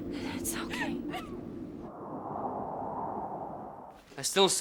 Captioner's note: wind blowing